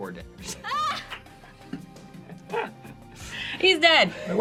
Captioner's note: all laugh